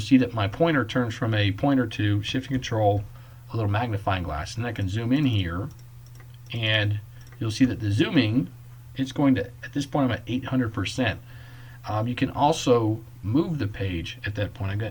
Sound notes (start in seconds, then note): 5.6 clicking